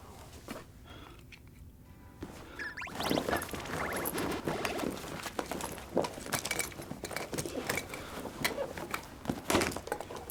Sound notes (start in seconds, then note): 2.6 phone beeping